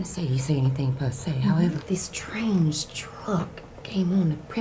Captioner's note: none